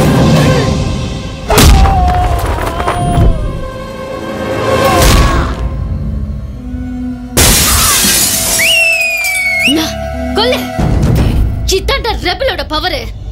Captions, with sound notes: (Glass shatters) (Whistles) Hit him! That's the power of Rebel.